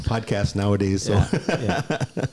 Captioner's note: laughs